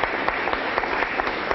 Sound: applause

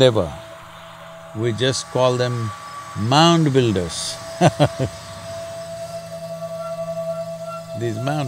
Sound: laughs

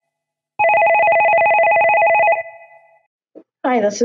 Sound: telephone rings

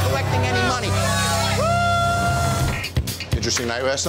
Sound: patrons cheering

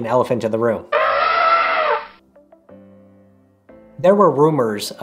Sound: trumpeting elephant

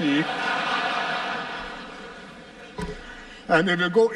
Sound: laughter

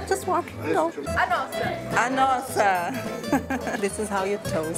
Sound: cheers in Portuguese

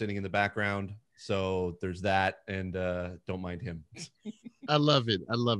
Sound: laughing

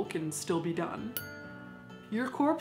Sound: dinging

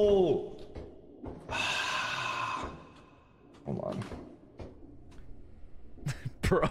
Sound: sighs

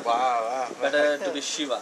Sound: laughs

